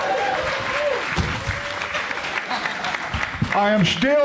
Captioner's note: crowd applauds